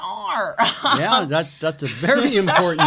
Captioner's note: chuckles